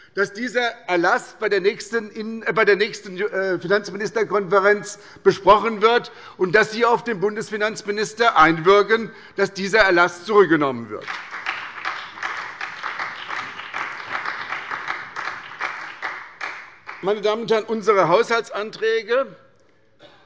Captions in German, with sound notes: dass dieser Erlass bei der nächsten Finanzministerkonferenz besprochen wird und dass Sie auf den Bundesfinanzminister einwirken, dass dieser Erlass zurückgenommen wird. [Beifall bei der SPD] Unsere Haushaltsänderungsanträge, die unser Fraktionsvorsitzender